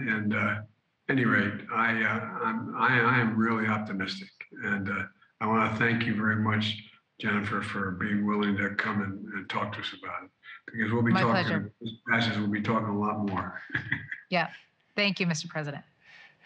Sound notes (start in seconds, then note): 13.9 laughs